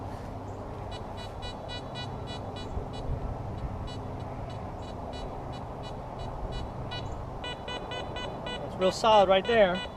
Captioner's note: detector beeps